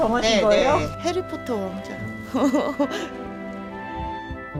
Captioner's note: giggles